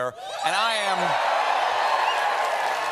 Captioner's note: cheers and applause